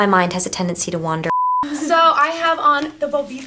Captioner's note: beep